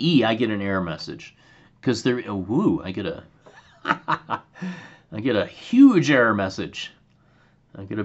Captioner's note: laughter